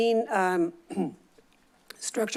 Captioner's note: clears throat